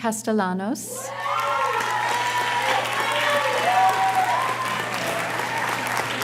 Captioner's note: audience cheers and applauds